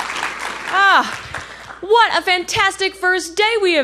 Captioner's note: applause and cheers